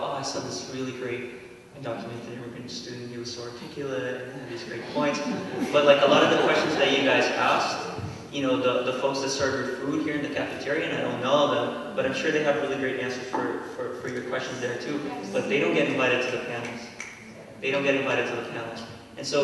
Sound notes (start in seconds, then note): 4.5 laughter